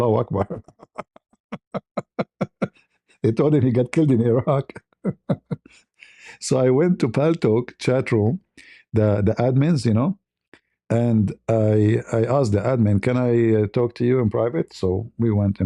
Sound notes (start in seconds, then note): 1.4 ketawa